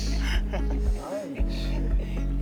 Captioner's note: laughs